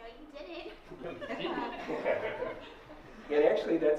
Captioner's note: laughter